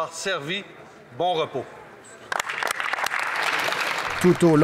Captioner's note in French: applaudissement